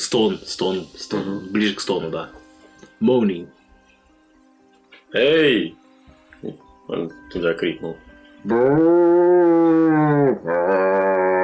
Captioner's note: zombie soup noises; zombie noises